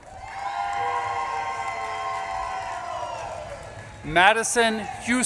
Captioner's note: audience claps and cheers